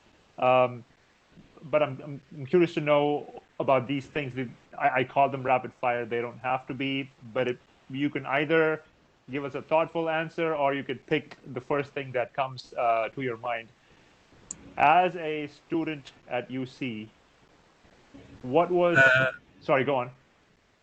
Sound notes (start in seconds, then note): 17.3 audio cuts out